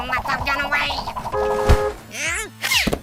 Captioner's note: car horn